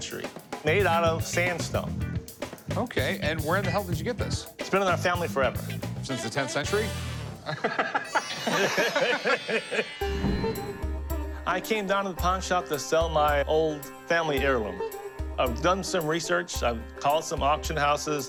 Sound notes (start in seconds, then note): 7.4 laughter